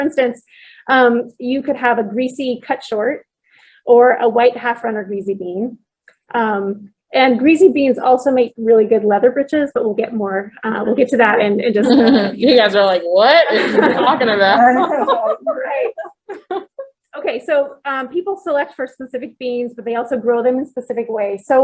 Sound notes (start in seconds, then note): 15.8 laughter